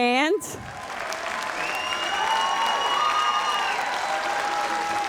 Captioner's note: audience applauds